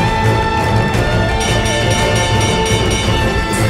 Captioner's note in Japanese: ゴングの音